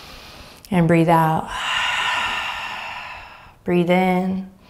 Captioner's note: inhaling deeply; exhaling deeply